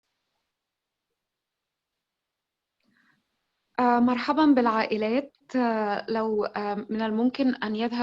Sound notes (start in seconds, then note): 4.1 in foreign language